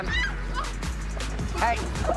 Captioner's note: screaming